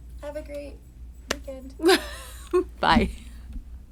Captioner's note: chuckling